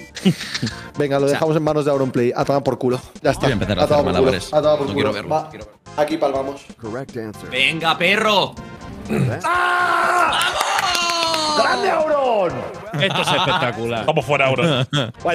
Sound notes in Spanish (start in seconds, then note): 9.4 grita